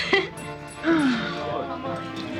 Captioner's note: sighs